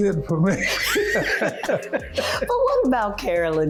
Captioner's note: laughing